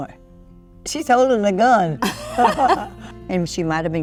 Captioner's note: laughs